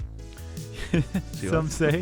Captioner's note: laughing